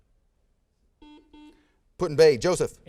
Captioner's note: buzzer sounds